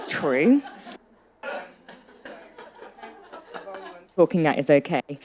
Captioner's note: attendees laughing